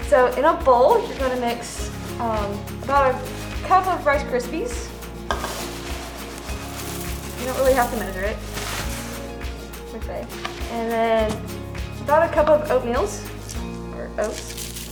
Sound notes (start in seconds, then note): 5.5 grain rattling; 14.1 oats rattling